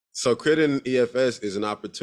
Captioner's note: none